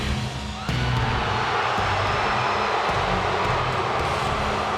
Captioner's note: dramatic music; audience jeers